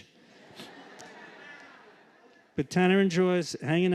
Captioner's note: laughter